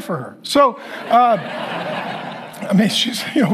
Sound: congregation laughing

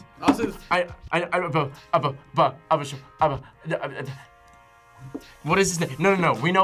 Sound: stutters

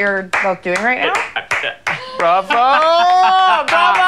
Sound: slow clapping

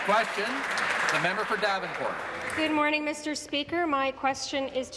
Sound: applause

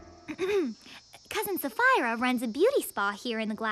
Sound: clearing throat

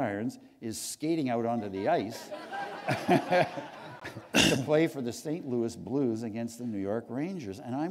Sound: laughter

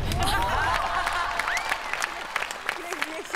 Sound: laughing

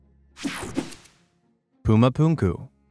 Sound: picture swooshes

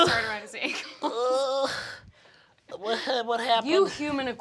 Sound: moans

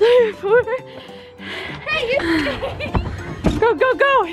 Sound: fast panting

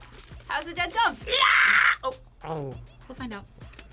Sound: screams

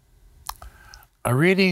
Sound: silence

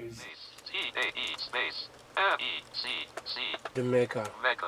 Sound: automated Voice

